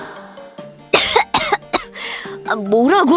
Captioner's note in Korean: 켁켁